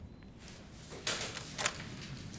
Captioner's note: door clicks open